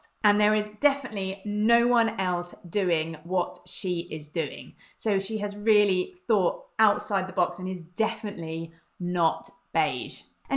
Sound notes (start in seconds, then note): none